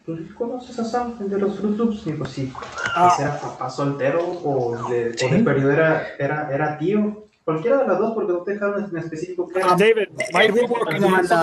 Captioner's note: male speaking Spanish; interjection noises